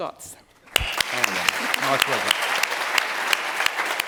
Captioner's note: applause